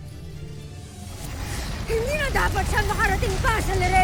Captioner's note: rousing music playing; powerful whoosh